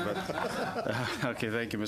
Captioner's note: laughter